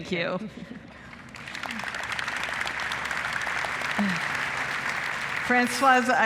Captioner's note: applause